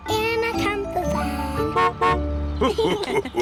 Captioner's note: horn honks; laughter